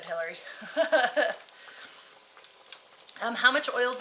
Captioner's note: chuckling